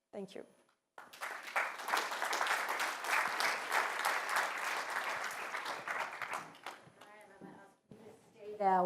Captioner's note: applause